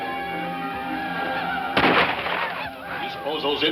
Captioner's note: gunshots